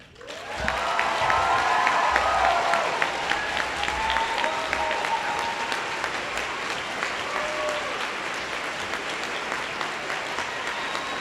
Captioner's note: applause